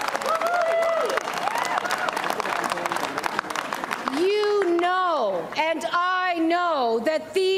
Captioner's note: cheers and applause